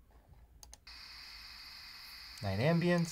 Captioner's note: cricket sounds play